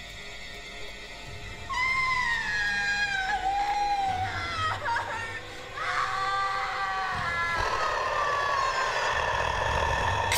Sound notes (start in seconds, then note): 1.7 woman screaming; 7.5 mummy growling